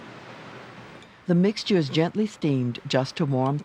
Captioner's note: voiceover